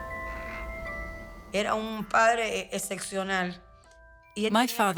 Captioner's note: speaking in Spanish